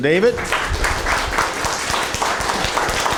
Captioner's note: applause